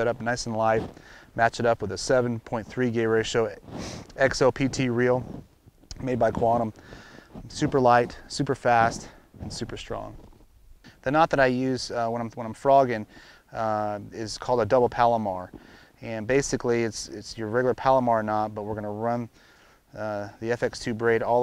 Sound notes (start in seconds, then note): none